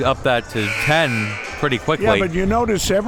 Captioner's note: buzzer buzzes